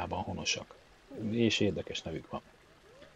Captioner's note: in Hungarian